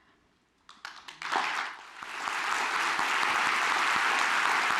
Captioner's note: audience applauds